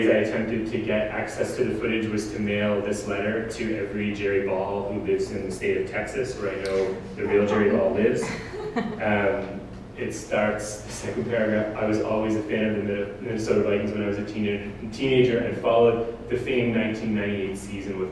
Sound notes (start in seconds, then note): 7.2 audience: Laughter